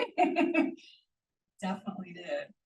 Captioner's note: person laughing